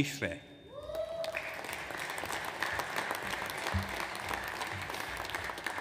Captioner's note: audience applauds